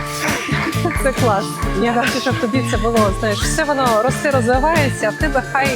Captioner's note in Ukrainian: сміх